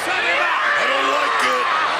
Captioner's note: wrestler yelling